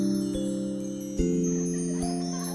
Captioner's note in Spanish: children's laughter